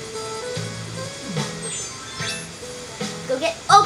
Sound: chimes as outfit changes

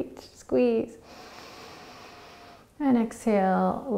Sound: inhaling

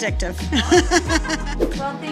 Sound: both laugh

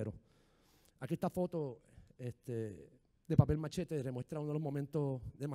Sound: speaking in foreign language

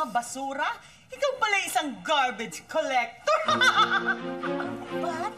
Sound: laughs

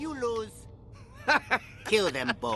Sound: laughs

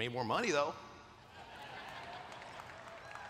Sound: laughter

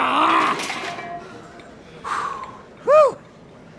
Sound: grunting

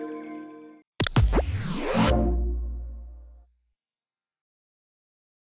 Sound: static buzzes, whooshing, warm tone

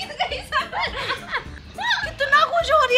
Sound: laughing

